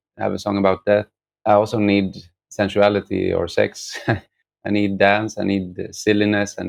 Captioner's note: laughter